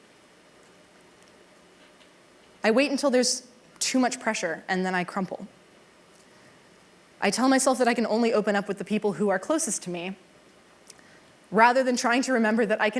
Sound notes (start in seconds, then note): none